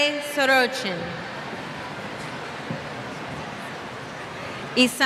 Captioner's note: cheers